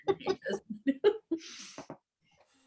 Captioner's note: both laughing